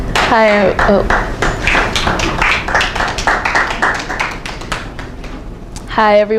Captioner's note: applause